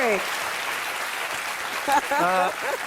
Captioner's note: applause